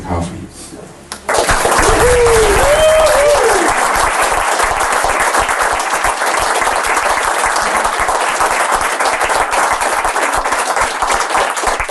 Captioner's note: applause